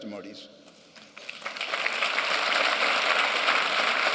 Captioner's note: applause